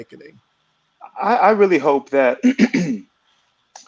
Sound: clears throat

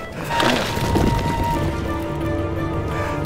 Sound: heavy breathing; skidding

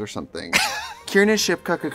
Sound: laughing

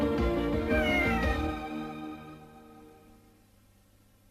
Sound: Mimsie mewing as music ends

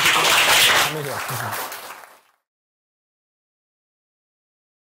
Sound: applause

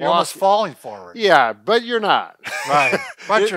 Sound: laughs

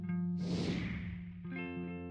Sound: whoosh

